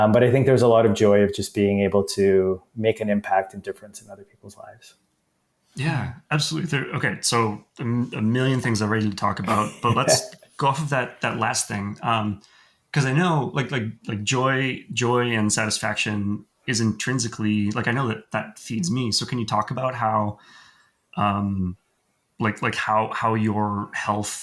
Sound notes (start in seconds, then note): 9.4 laugh